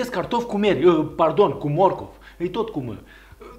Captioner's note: in romanian